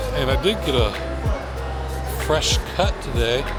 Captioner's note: laughs